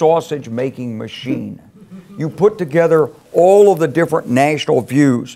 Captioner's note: laugh